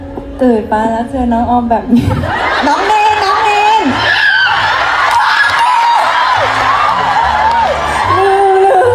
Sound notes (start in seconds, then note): 3.9 Orm Screming; 6.9 fans Screming